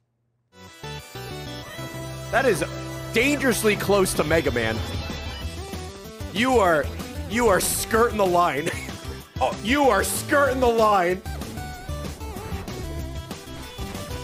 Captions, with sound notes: That is dangerously close to Mega Man. You are, you are skirting the line. (laughs) You are skirting the line.